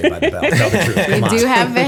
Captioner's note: laughter